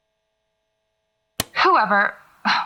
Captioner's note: click